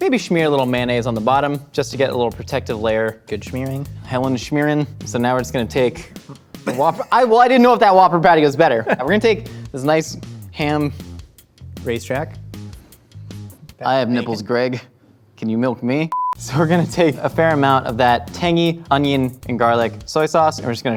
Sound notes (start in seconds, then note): 16.1 high pitched beep